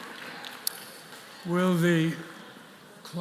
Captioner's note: applause